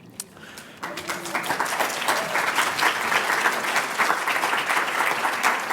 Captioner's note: applause